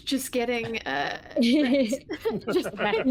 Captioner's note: laughing